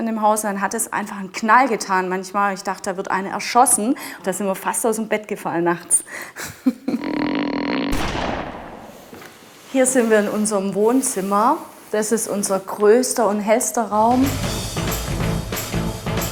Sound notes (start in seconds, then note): 7.8 creaking, gunshot; 13.9 fast music